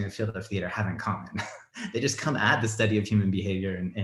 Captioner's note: chuckles